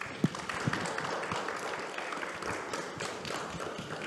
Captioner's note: audience applauding